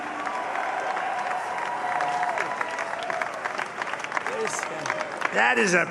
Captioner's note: applause